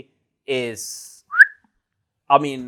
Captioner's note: whistle